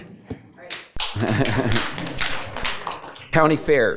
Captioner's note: board Members applauding